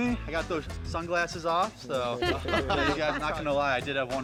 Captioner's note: laughter